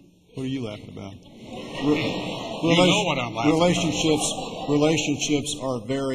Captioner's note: laughter